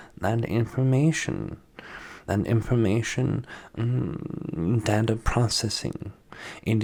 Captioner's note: mmmmm